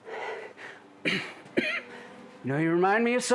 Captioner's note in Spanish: Jonathan tosiendo